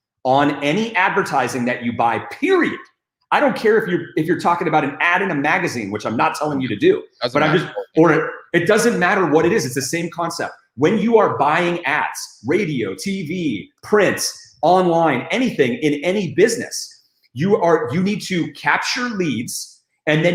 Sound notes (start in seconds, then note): 7.2 static